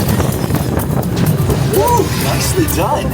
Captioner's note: futuristic sound effects